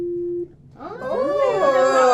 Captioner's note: laughs